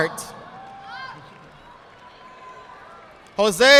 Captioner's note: audience applauding